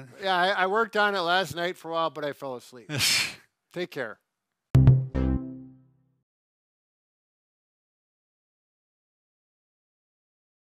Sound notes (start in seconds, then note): 3.1 chuckles; 4.7 bright music